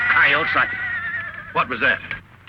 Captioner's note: horse neighing